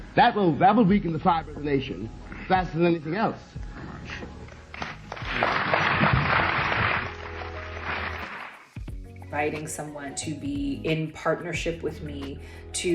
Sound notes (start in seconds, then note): 5.2 audience applauding